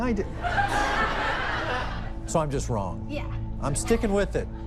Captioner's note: laughter